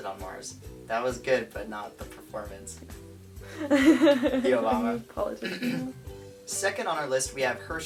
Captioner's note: laughing